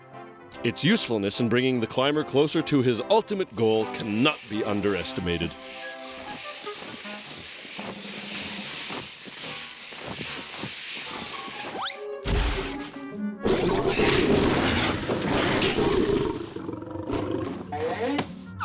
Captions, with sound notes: ITS USEFULNESS IN BRINGING THE CLIMBER CLOSER TO HIS ULTIMATE GOAL CANNOT BE UNDERESTIMATED. (growling, clattering)